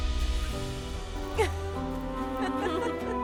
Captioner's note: Las tres ríen